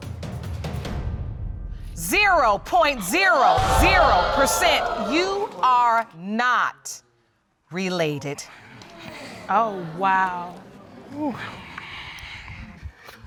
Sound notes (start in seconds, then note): 2.9 audience exclaiming